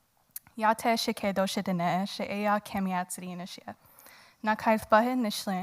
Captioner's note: woman speaking in foreign language